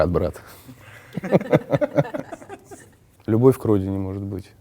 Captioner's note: laugh